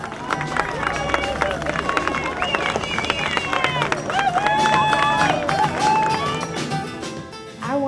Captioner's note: cheers and applause